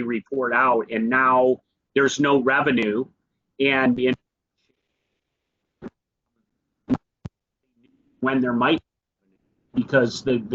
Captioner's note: audio cuts out